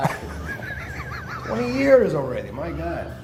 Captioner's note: Edge laughs